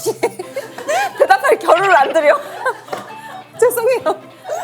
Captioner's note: hahaha